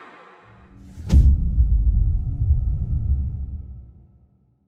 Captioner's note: dramatic sound